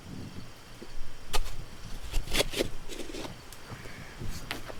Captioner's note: insects chittering; shovel scrapes; insects chittering